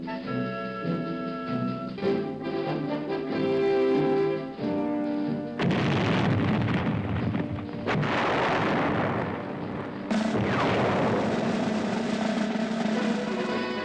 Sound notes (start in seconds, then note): 5.6 grenades exploding; 10.2 intense orchestral music